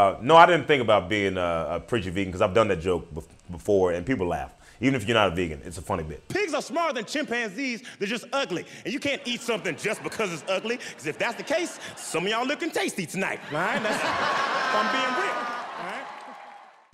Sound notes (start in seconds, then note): 13.6 audience laughing